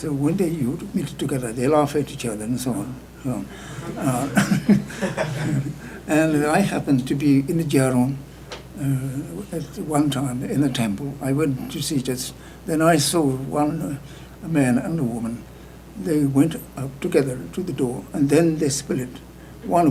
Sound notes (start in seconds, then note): 3.7 laughter; 8.4 speaking tibetan